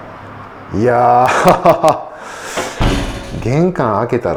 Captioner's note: laughs